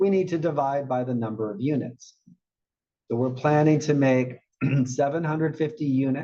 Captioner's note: cough